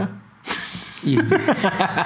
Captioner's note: laughing